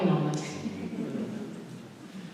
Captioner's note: laughter